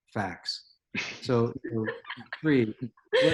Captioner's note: laughs